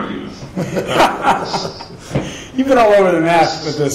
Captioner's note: laughing